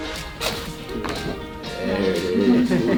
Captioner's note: upbeat music; cracking; patients laugh